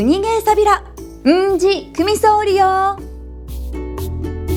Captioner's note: in Okinawan